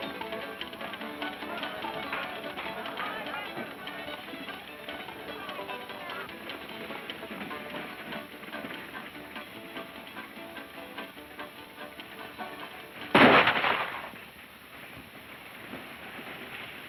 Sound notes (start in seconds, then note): 0.3 people chattering; 0.3 upbeat music; 13.1 gun fires